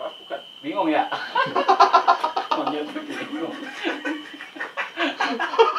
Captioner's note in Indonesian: ketawa Monyet